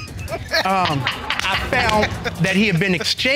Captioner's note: laughing